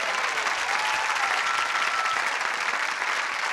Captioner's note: applause